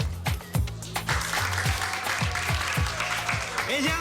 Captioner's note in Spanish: Aplausos